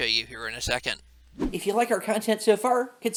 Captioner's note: air whoosing